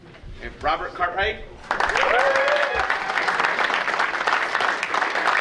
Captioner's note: audience cheering